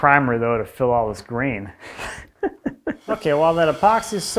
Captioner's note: laughs